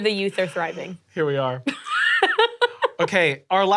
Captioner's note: laughing